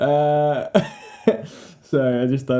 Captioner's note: laughing... again